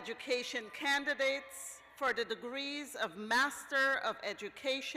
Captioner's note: cheers